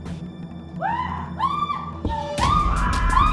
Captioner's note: Hope screaming; Stephanie screaming; dramatic music; women screaming